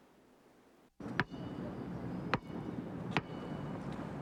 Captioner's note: ball tapping